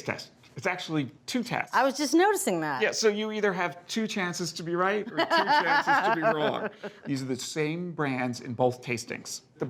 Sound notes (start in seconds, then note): 5.1 laughing